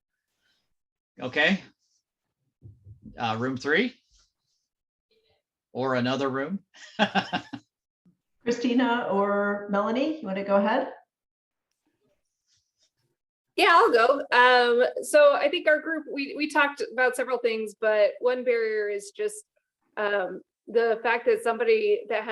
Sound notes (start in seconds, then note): 5.2 laughs